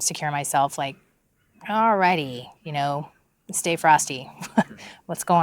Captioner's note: laughs